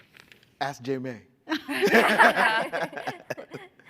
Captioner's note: laughs